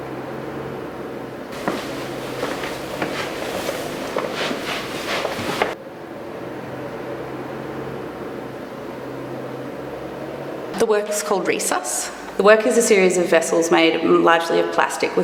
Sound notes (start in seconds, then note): 1.5 footsteps